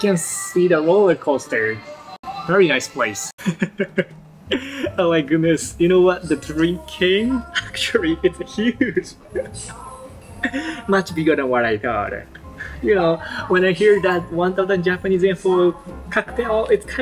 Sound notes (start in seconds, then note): 3.4 laughs